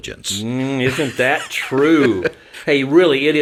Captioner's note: laughing